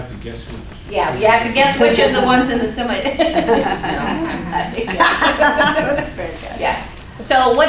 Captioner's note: laughing